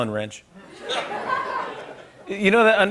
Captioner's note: laughter